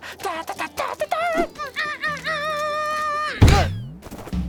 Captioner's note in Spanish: Tarareando; Sonidos de perdedor